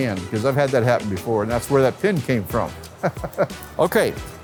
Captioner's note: laughs